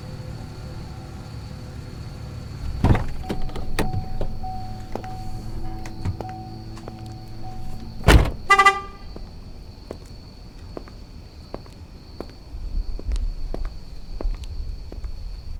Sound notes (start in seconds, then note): 4.4 car door beeping; 8.0 car alarm beeps